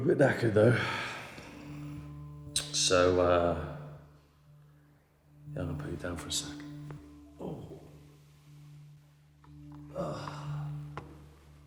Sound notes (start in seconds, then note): 7.4 Danny groans